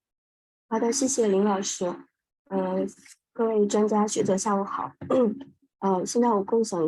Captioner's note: professor speaking in foreign language